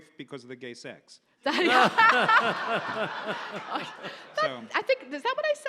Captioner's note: audience laughs